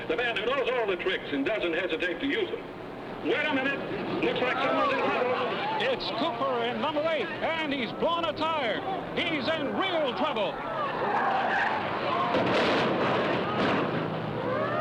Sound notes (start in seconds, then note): 10.5 tires screeching; 12.3 car thudding